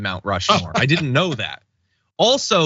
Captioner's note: laugh